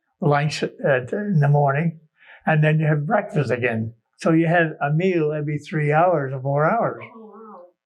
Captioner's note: laughs